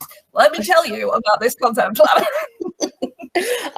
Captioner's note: laughs